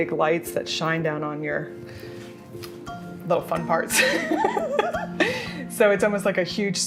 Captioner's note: laughs